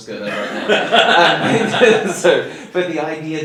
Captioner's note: laughing